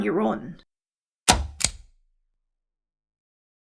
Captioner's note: click